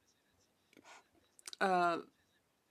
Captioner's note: speaking French